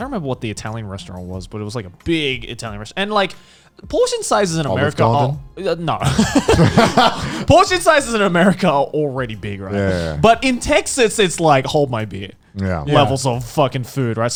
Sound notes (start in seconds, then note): 6.0 laughing